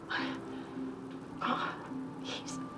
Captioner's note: exhales; voice cracking